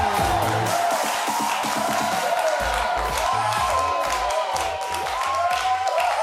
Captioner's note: audience wooing and applauding